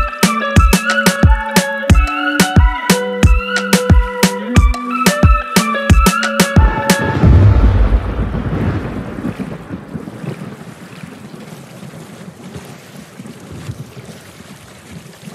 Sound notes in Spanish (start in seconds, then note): 0.0 música alegre; 6.6 trueno; 12.6 agua salpicando